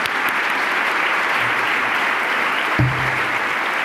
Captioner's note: applause